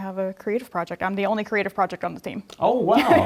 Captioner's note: laugh